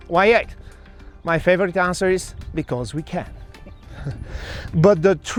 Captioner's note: chuckles